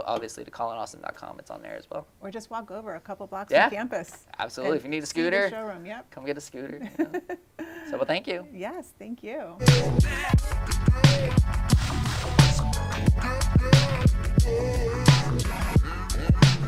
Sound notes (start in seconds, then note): 6.8 laughing; 11.2 smooth music